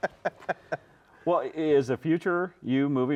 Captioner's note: laughs